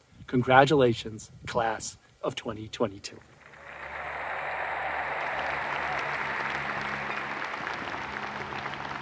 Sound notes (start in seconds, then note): 3.3 audience cheering and applauding